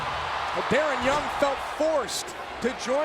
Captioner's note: crowd cheering